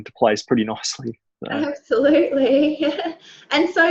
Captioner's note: laughs